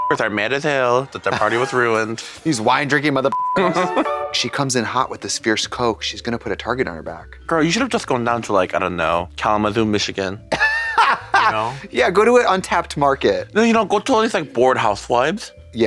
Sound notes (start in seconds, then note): 3.6 bright chime